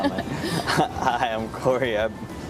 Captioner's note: students laughing